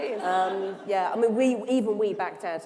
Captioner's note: laughter